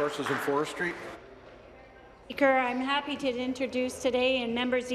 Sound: applause

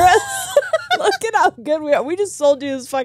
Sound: both laughing

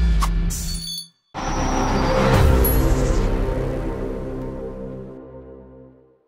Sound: clink, sparkle sounds; cinematic thrum, sparkle sound

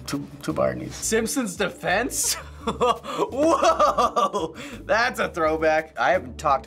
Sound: laughs

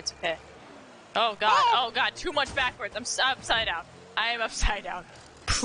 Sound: some cartoony 'ohOHoh'

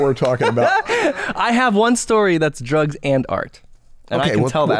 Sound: laughter

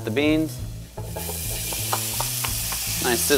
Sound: pan sizzling

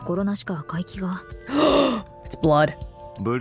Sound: gasps

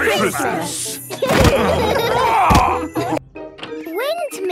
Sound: laughing

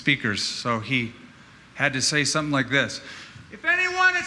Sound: shouting

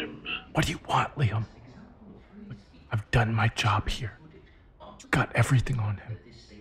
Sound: whispering

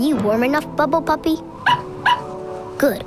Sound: barking

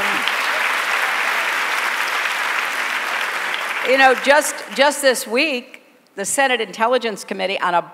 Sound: applause

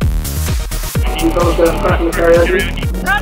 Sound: muffled announcement on PA

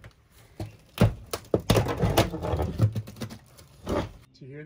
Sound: creaking

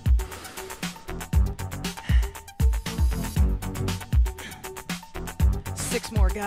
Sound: upbeat music; heavy breathing

